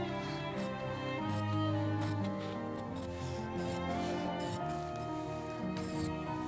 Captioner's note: scissors snipping